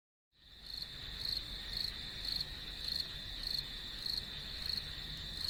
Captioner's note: crickets chirping